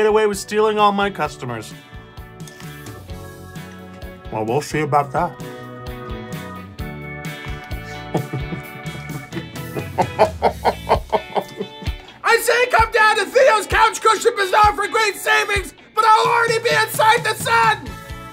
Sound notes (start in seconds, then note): 7.8 chuckling louder; 7.8 creepy chuckle